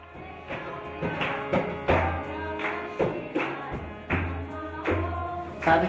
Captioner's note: foreign Language